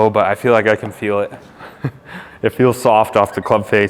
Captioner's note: laughs